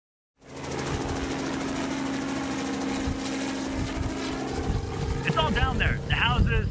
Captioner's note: helicopter